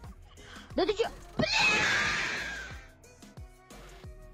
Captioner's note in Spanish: grito